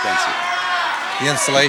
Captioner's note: audience yells suggestions